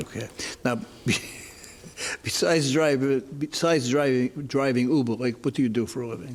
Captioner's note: laughs